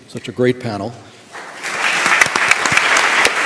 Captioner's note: applause